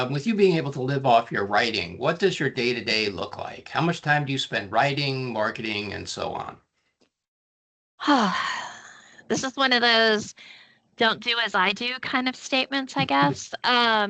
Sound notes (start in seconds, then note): 8.7 sighing; 13.2 chuckling